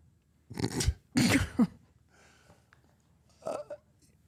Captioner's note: Mark laughs